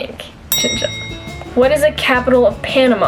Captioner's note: bell ring